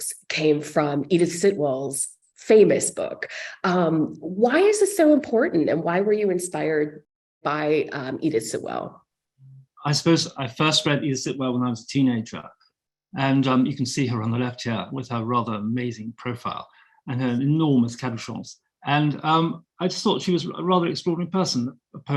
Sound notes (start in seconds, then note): 17.8 speaking French